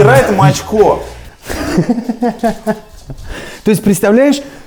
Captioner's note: laughs faintly